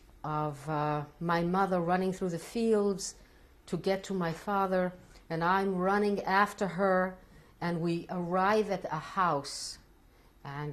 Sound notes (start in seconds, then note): none